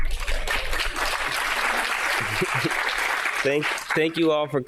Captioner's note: audience applauding